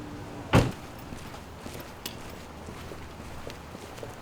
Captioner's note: footsteps thumping